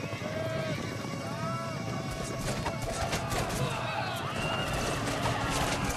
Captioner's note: crowd cheering